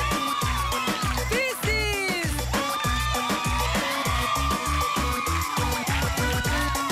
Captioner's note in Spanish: Exclamaciones; Aplausos; Exclamaciones